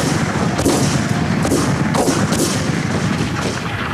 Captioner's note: guns bang